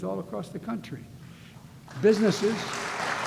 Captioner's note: applause